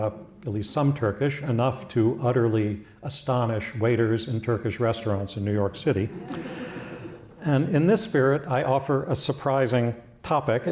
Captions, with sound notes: at least some Turkish enough to utterly astonish waiters and Turkish restaurants in New York City. [LAUGHTER] In his spirit, I offer a surprising topic,